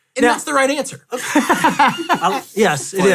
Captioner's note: all laugh